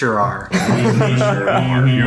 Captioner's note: laughs